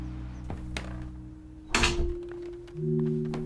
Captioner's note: door closes